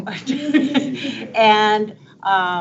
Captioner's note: board members laughing